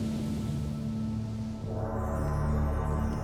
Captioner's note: gong; chimes